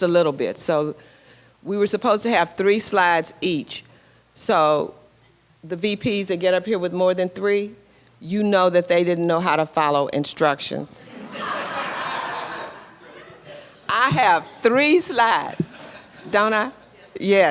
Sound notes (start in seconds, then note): 11.0 laughter